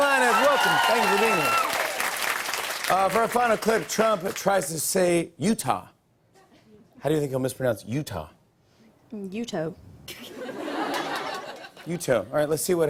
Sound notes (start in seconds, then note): 0.0 cheers and applause; 9.4 light laughter